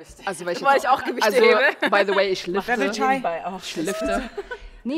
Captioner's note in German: Gelächter